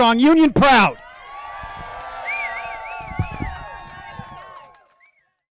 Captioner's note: crowd cheering